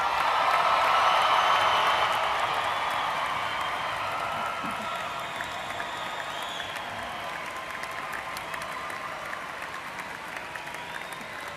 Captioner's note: applause